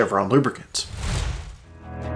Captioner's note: screen whooshing; gentle music